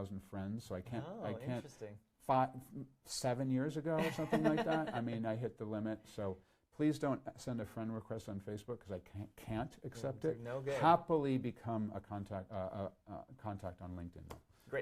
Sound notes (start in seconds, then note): 4.0 laughs